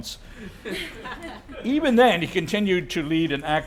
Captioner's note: laugh